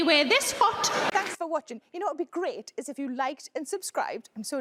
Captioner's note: audience laugh